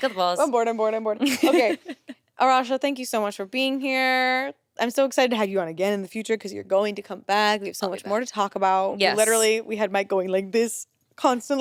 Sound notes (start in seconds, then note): 1.2 chuckles